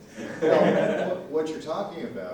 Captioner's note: laughter